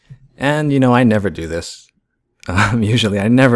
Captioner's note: laughs